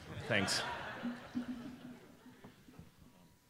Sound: laughter

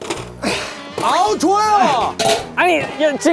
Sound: closing the lid

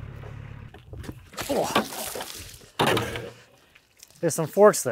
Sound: water splashing

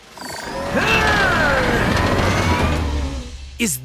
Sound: grunting

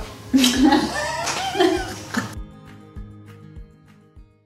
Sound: laugh lightly

